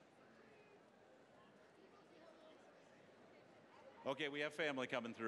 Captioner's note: general chatter